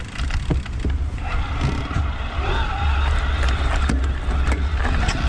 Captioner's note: bicycle motor roars